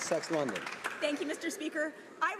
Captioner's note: some Applause